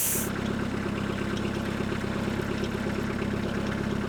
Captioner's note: engine revving